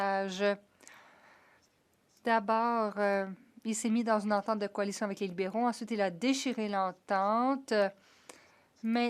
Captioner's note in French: voix de l'interprète